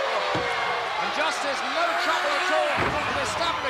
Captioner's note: blows thudding